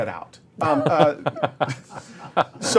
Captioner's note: laughter